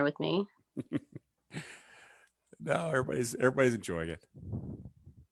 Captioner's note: chuckles